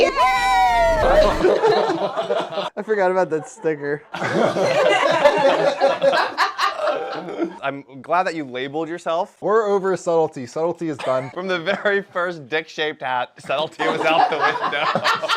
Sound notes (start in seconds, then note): 6.0 laugh; 13.8 laugh